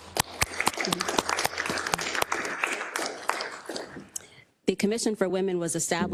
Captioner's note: applause